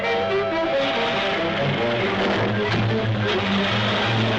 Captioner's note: engine rumbling